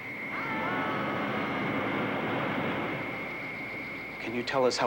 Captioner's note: group yelling